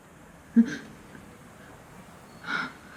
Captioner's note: Leona gasps